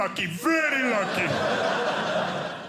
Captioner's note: audience laughing